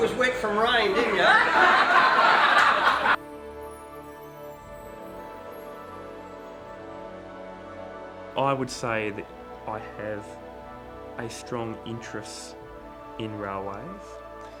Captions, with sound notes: you thought I was wet from rain, didn't ya? (audience laughs) - I would say that I have a strong interest in railways.